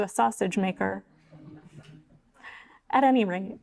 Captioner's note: audience laughing